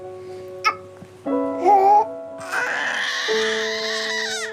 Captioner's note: coughs, cries; gasps, cries